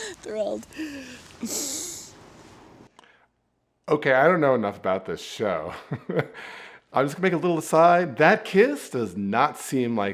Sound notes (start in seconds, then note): 0.1 Michael makes loud kissing noise; 6.1 chuckling